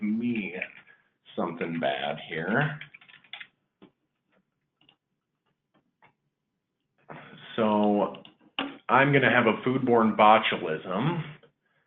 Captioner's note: typing